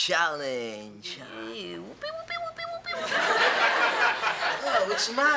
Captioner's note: Kevin cheers sarcastically; audience laughs